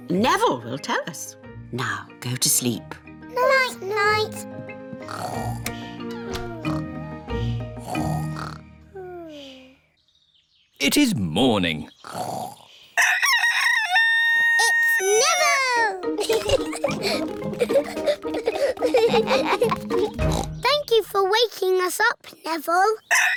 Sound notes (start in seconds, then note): 5.3 both snoring; 13.0 neville crows; 16.1 both giggling; 19.7 oinks